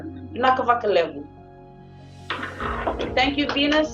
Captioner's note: non-english speech